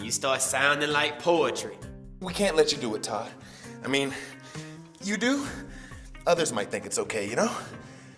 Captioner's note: none